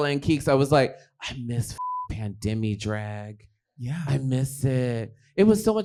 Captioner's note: beep